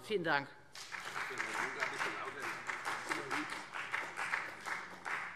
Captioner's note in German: Beifall Freie Demokraten